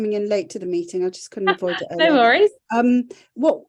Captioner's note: laughs